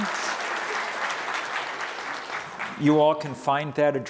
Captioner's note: audience applause